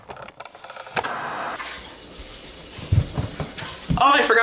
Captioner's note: static buzzing